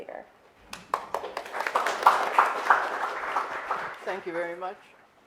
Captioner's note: audience applauds